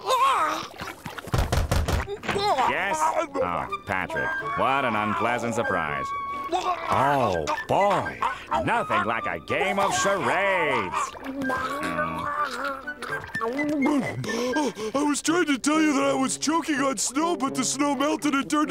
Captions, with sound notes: [knocking] Yes? Oh. Patrick. What an unpleasant surprise. Oh, boy. Nothing like a game of charades. I was trying to tell you that I was choking on snow, but the snow melted and turned into water,